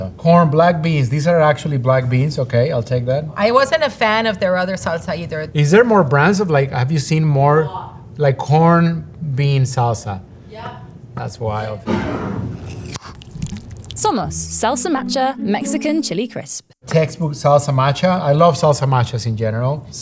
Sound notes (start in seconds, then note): 11.9 jar sliding; 12.2 lid opening; 12.6 salsa pouring